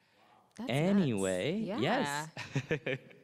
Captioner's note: chuckles